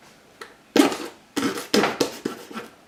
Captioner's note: knife through paper sound